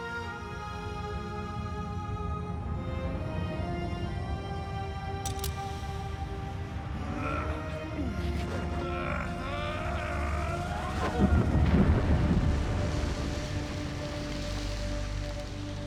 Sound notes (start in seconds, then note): 0.1 low rumbling; 5.2 click!; 6.1 moans in pain; 10.5 extremely loud rumbling